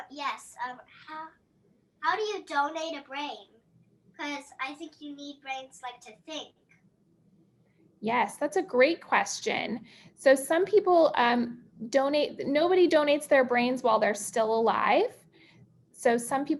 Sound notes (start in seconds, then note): none